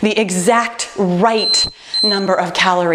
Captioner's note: timer beeping